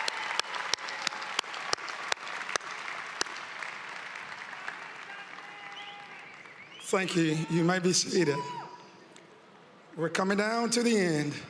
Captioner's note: applause